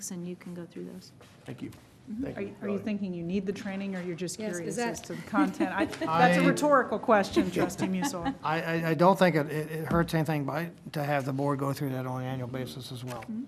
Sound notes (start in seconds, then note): 5.2 laughter